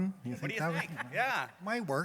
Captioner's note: laughter